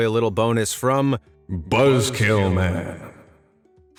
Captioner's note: dramatic voice